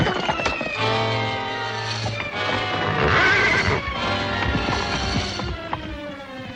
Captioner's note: dramatic music continues; horse neighing